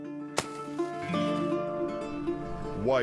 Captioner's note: match sparks; soft solemn music